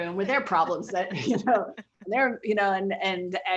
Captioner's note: laughing